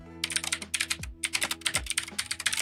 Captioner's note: typing